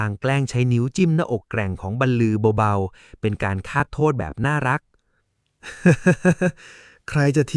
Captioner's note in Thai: เสียงหัวเราะ